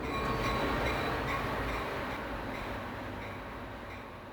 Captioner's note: train bells clanking